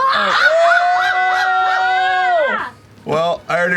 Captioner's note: exclaiming